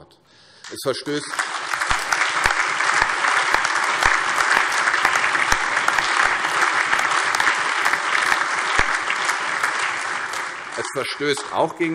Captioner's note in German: Allgemeiner Beifall